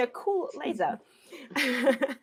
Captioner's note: laughs